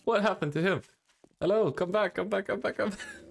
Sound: laughs

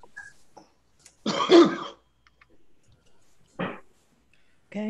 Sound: coughing

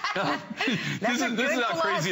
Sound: laughter

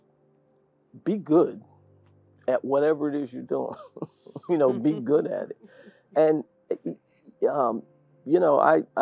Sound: laugh

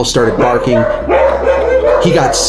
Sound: dogs bark

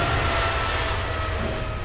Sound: none

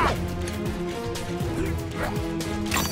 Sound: grunting

